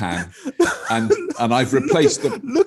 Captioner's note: laughing